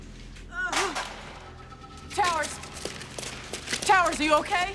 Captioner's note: moans